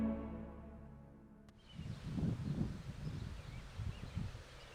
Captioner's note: birds chirping